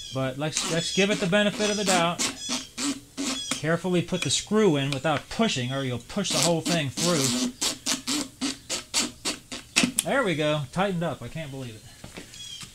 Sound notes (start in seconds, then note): 0.5 drill running